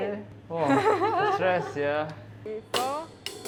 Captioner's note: laughter; drum beats on the cymbals with counts